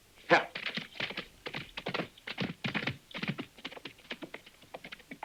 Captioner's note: hooves thudding